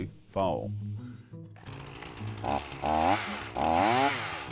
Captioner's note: buzzing